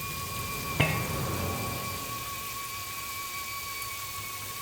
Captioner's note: lamp thuds